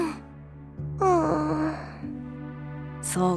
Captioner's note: depressed sigh